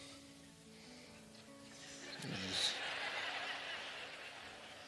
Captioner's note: laughter